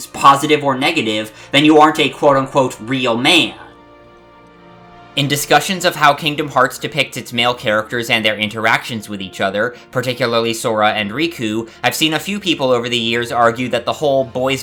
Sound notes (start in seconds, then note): 4.2 breathe